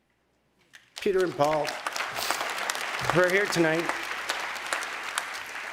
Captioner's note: applause